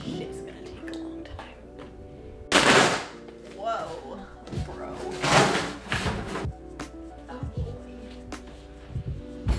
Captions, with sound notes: This shit's gonna take a long time. (box ripping) Whoa, bro. (upbeat music)